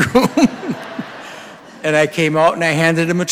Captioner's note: audience laughing